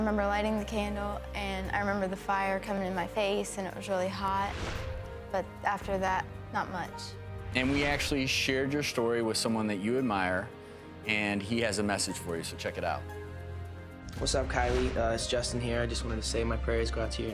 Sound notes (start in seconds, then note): 0.0 somber piano music; 4.1 swoosh